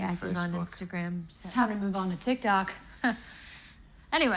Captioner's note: chuckles